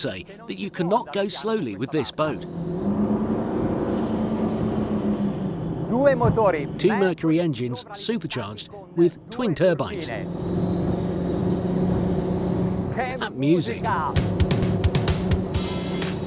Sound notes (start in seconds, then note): 10.6 engines roar; 13.9 drumbeat